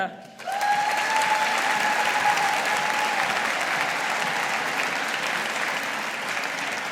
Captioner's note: audience applauding